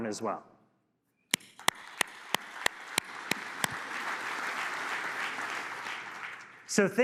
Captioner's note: applause